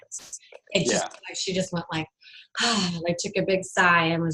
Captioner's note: sighs